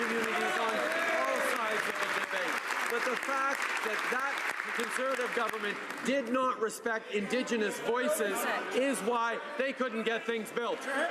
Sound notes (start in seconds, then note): 5.8 some applause